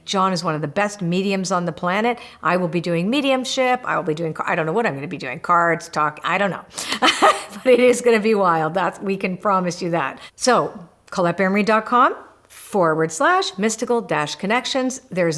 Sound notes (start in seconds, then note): 6.7 laughs